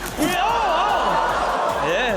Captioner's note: audience gasps